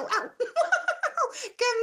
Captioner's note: Elmo giggles